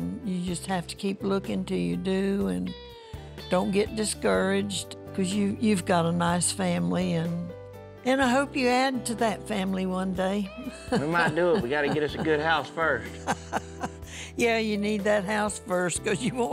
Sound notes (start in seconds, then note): 10.7 chuckles